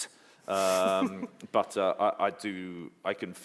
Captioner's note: anne-marie laughs